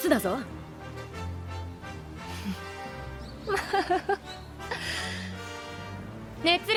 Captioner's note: laughs